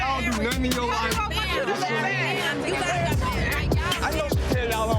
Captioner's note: people speaking indistinct